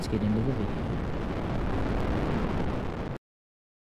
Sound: missile rumbling

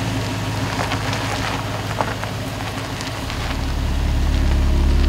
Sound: truck engine running; truck wheels rolling over gravel

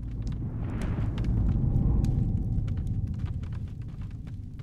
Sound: air whooshing

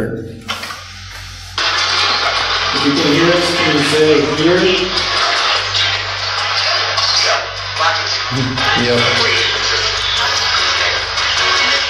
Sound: static

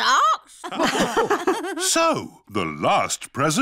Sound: all laugh

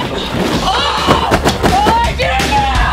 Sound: yelling; upbeat rock music

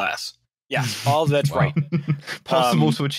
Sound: laughter

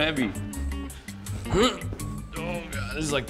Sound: grunting

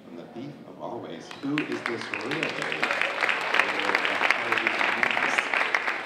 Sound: audience applauding

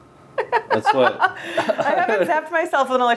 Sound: laughing

